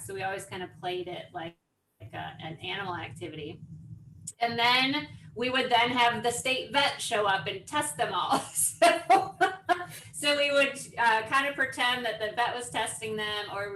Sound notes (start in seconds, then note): 8.8 laughs